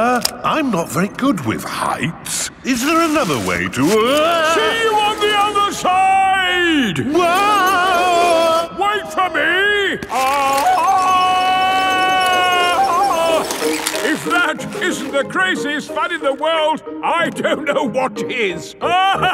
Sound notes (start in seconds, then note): 7.8 yelling; 11.2 yelling